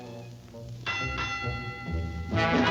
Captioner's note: trolley bell dings; bright music